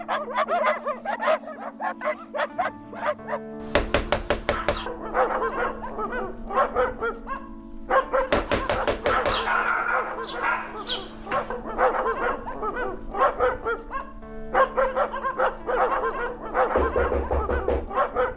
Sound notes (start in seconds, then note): 3.6 loud Knocking; 4.2 loud Dog Barking